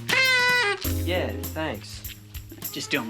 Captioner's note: party blower hoots